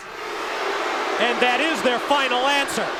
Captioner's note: crowd cheering